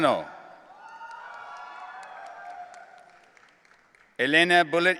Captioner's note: audience cheering